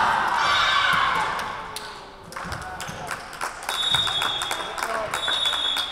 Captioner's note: whistle blowing